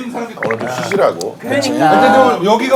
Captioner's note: patting